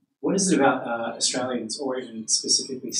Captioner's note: voiceover